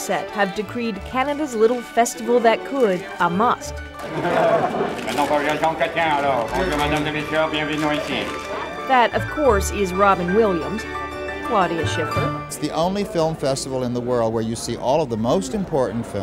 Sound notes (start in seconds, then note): 4.0 laughter; 8.0 imitating Jean Chrétien